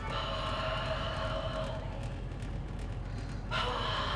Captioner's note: whispers